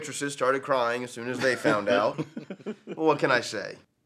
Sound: Gates and Travis laugh

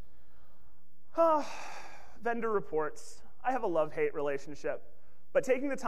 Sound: sighs

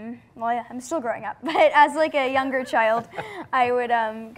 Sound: light laughing

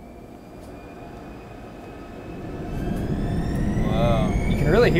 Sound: engine accelerating

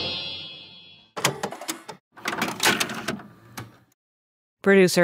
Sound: VHS clicking

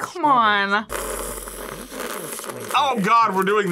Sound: slurps

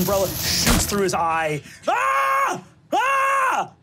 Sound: screams

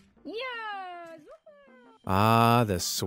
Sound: cheering

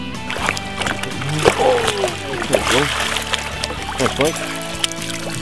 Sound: splashing

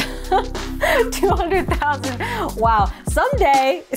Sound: laughing

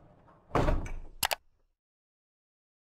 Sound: computer mouse clicking

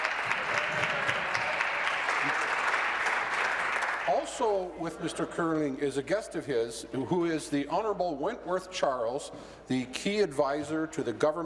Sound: applause

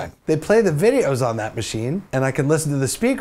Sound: voice-over

